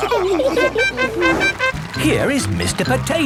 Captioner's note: all laughing; horn tooting